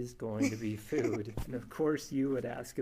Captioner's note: laughs